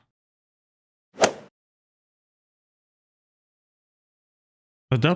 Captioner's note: golf ball hit sound effect